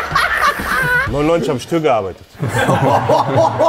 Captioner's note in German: Gelächter